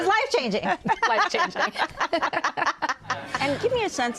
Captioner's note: laughter